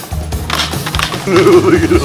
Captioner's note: laughter